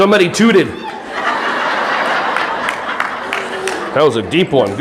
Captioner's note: audience laughing